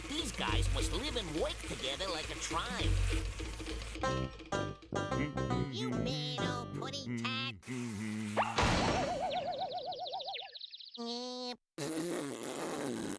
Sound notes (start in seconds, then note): 7.6 humming; 11.0 jeering